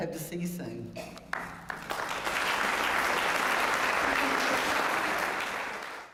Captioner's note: applause